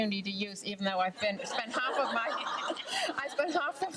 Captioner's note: laughs with crowd